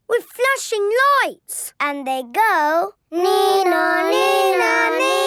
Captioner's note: imitating siren